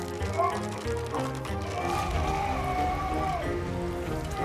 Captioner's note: yelling